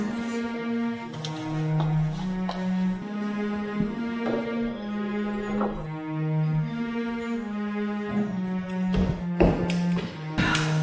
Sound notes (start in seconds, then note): 1.2 echoing footsteps; 10.2 sighs